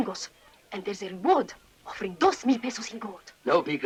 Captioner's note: speaking in Spanish